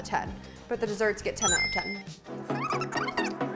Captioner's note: smooth music; ding